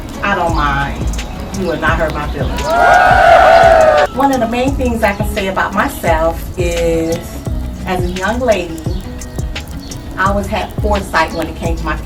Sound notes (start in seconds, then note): 2.4 cheers